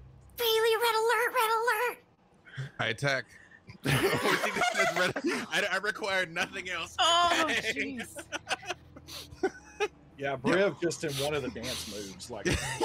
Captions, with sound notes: - Freely, red alert, red alert. - I attack. (laughs) I required nothing else. (laughs) - Yeah, Briv just in one of the dance moves, like